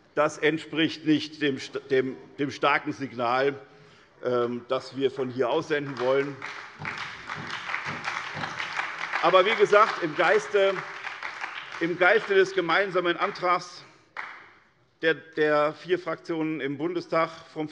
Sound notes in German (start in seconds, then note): 6.4 Beifall bei der SPD